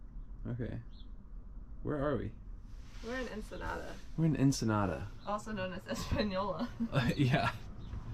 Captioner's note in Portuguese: risada